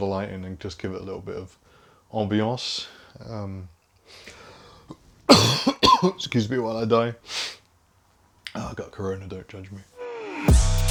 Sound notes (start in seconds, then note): 5.3 coughing